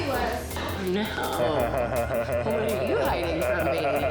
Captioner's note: laughs